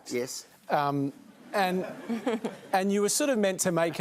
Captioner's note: laughter